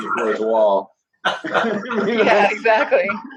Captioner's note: laughing